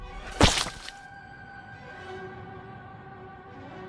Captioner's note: bird splattering; dramatic music